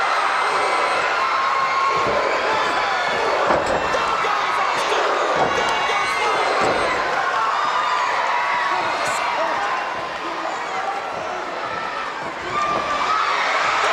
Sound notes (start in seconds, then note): 1.8 crowd cheering; 5.2 body thudding